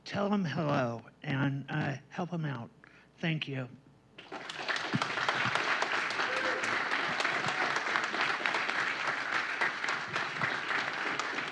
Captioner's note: applause